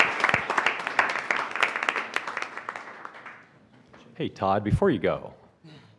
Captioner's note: applause